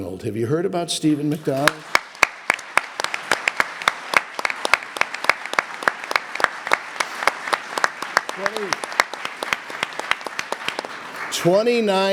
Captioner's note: audience applause